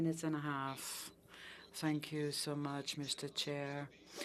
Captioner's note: speaking French